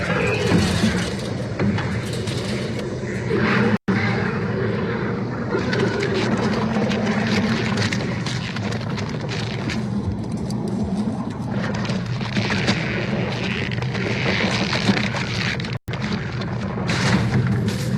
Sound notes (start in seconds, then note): 0.2 gurgling; 4.2 skittering; 13.2 gooey Stretching Sounds